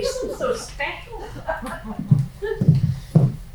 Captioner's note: laughing